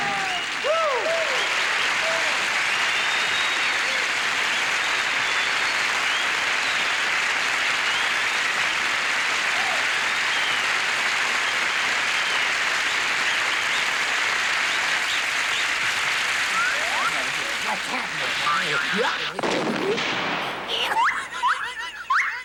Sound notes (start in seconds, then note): 0.2 audience applauding and cheering; 19.3 cannon firing; 20.4 laughing